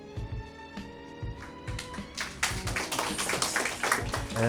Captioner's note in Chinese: 掌声